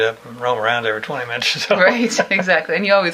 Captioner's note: he laughs